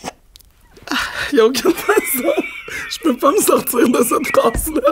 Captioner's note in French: éclat de rire